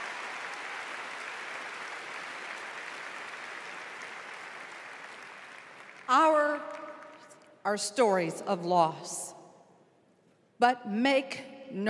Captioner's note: applause